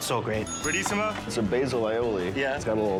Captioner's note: bell rings